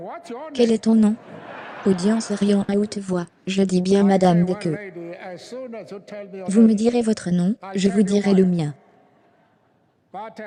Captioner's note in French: audience riant à haute voix